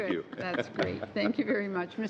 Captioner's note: laughter